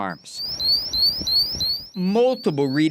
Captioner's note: alarm beeping